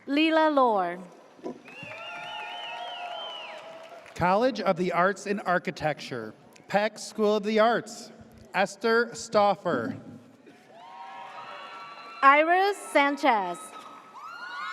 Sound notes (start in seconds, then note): 1.6 audience cheers; 10.7 audience cheers